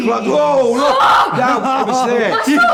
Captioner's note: screams